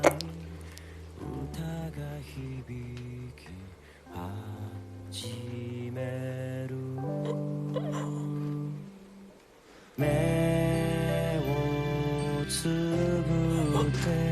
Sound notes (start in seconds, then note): 0.0 squelching stab, restrained choke; 6.2 restrained choke